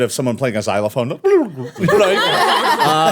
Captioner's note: mouth noise; everyone laughing